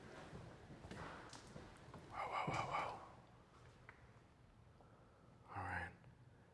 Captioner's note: whispers